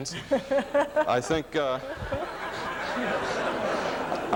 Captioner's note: laughs